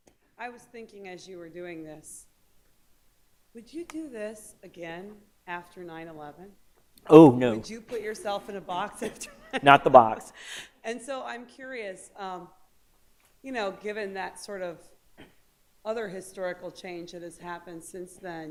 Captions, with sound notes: >> I was thinking that you were doing this. Would you do this again, after 9-11? >> Oh no. >> Would you put yourself in a box and [laughter]... >> No, not the box. >> And so I'm curious, you know, given that sort of other historical change that has happened since then,